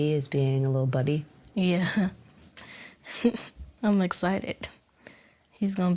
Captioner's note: chuckles